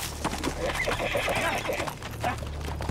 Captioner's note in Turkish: At kişneme sesi